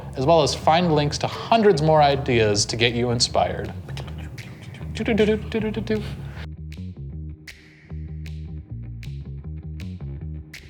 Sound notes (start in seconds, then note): 4.3 mimics upbeat music; 5.8 bass guitar music